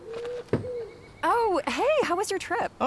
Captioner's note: owl hooting; feet thumping; box thumping